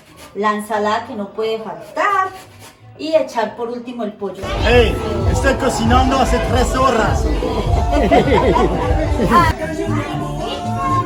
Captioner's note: laughter